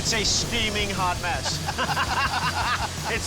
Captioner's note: laughing